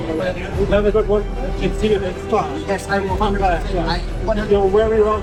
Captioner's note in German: in einer Fremdsprache